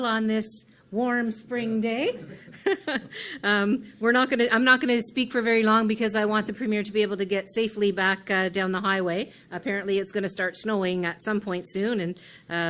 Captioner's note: laughs